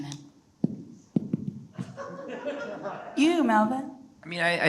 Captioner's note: audience laughs